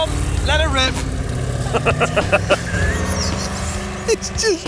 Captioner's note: they laugh